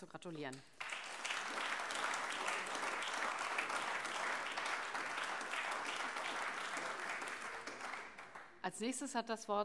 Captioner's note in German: Beifall AfD